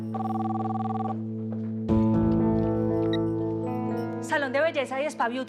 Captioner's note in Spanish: suena el celular